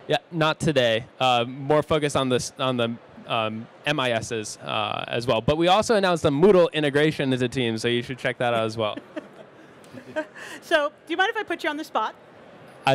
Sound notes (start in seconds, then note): 8.5 laughs